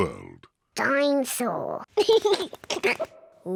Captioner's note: giggles